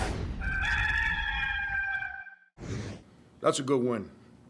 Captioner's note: rooster crowing